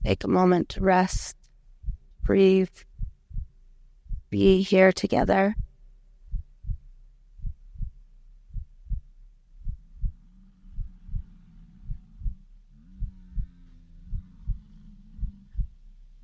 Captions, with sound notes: Take a moment to rest, breathe, be here together. (heart beating) (buffalo bellowing)